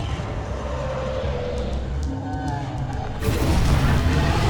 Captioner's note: dragon growls